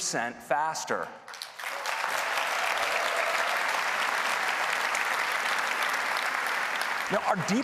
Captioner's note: applause